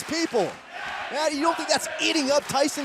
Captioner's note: fans chanting